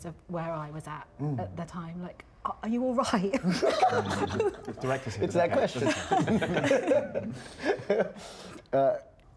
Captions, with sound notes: of where I was at at the time. – Like, are you all right? – (LAUGHTER) It's that question!